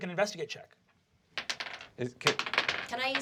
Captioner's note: dice rolls